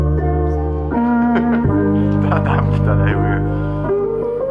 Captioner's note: laughs